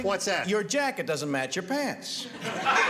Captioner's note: laughter